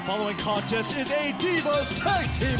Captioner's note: bell ringing